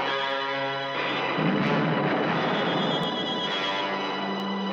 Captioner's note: explosion booming